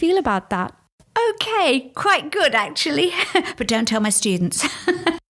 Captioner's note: giggles